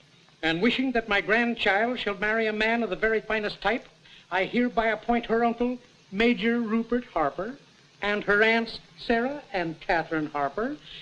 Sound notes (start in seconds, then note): none